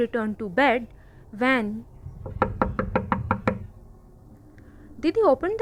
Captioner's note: closing of door